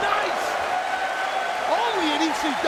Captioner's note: spectators cheering and applauding